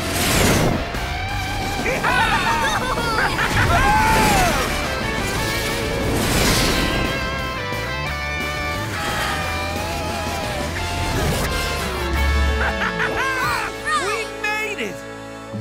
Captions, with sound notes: [cheering] Ha ha ha ha! -All right! -We made it!